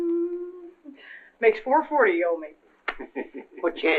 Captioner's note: humming; chuckles